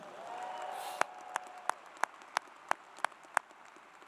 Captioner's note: applause